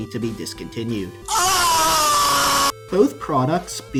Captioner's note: FlightReacts screaming in shock and horror